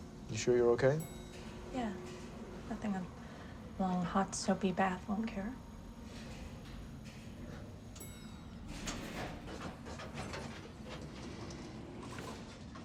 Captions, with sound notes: - You sure you're okay? - Yeah. Nothing a long, hot soapy bath wouldn't cure. (elevator dings) (elevator rattles)